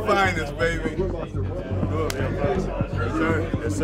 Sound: people chattering

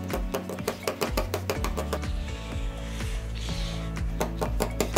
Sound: markers pounding the paper

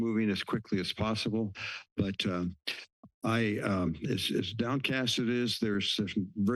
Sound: stutters

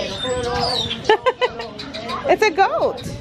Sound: laughs

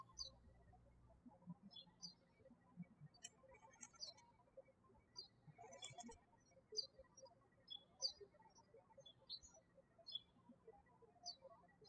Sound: birds chirping

